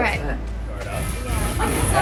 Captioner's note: motorbike starts offscreen